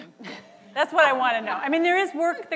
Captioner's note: laughter